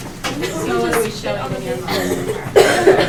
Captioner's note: chatter